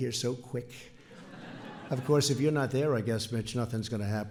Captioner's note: laughter